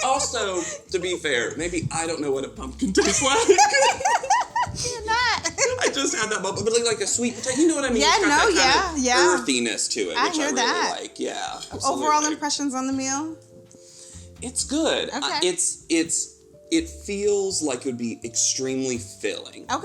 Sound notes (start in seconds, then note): 2.9 both laugh